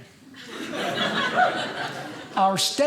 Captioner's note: audience laughing